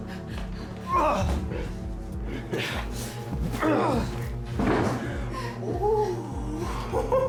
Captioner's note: Carrie screaming; tense music; Tim groaning